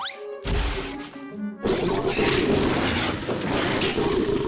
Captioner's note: growling, clattering